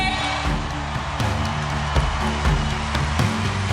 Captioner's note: cheers and applause